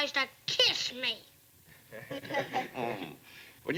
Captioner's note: laughter